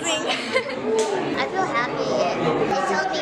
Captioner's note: laughs